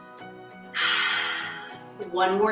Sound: exhales

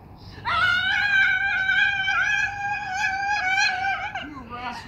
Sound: screaming

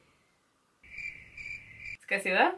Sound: crickets

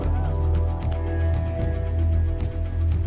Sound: none

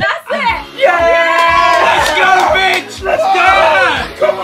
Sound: everyone celebrating; upbeat music plays

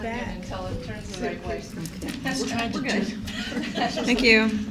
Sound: chatter

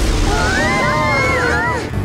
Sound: screaming

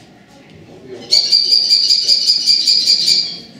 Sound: kestrel Call

